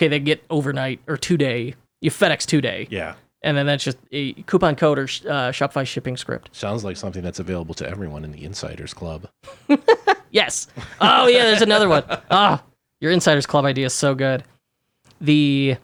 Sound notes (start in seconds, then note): 9.4 laughs